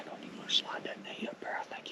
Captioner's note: whispering